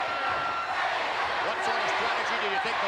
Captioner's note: spectators cheering